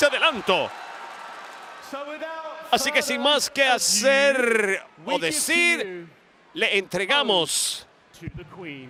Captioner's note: applause